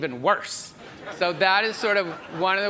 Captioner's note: audience members laughs